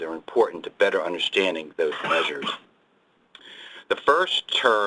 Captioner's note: another person coughs